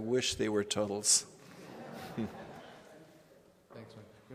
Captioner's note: laughter